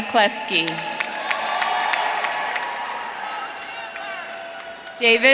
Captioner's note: audience cheering